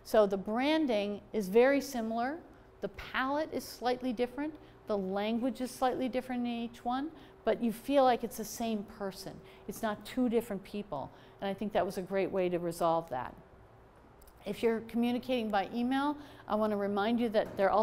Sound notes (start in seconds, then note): none